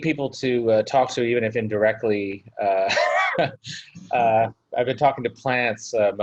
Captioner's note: laughs